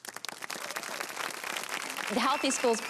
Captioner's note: audience applause